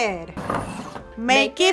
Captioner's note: cans swooshing